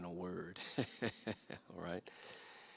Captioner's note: laughs